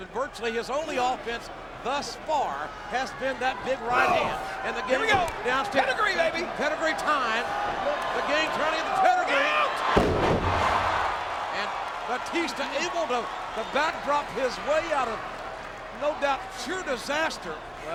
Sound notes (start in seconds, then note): 10.7 applause